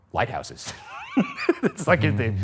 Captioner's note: laughing